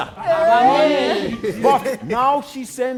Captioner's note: group cheering